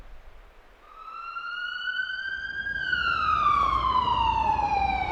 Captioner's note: emergency ambulance siren